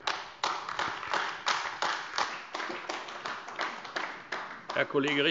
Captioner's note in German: Beifall AfD